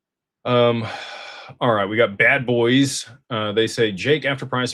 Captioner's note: sighs and gasps